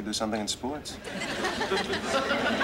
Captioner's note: laughter